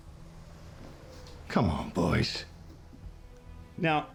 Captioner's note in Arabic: موسيقى متوترة; لهجة اسكتلندية